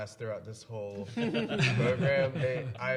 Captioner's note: panelists laughing